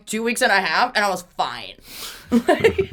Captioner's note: laughs